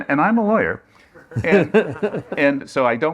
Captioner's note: laughter